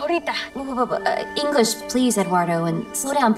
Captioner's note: Eduardo speaking Spanish; stammers